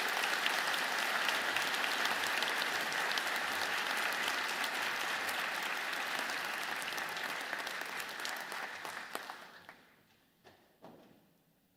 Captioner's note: applause